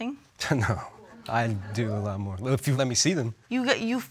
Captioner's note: chuckles